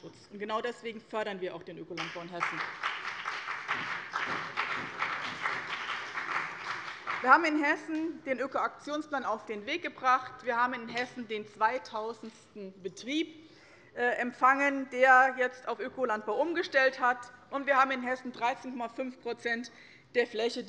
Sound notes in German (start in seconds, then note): 2.0 Beifall bei dem BÜNDNIS 90/DIE GRÜNEN und bei Abgeordneten der CDU